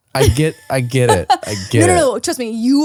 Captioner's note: laughing